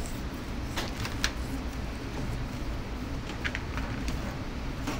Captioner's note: plastic bag crinkles